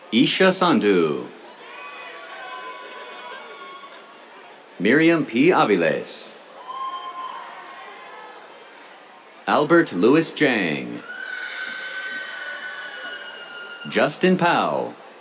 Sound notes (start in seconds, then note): 0.6 cheers; 6.5 cheers, applause; 10.5 cheers